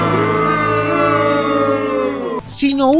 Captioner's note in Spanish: Abucheos